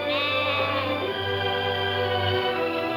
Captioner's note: lambs bleating; soft music